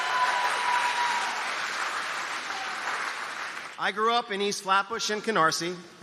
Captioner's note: cheers and applause